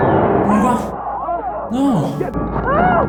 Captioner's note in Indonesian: Berteriak